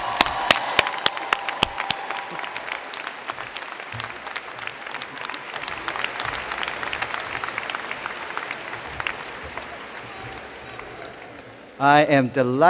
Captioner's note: cheers and Applause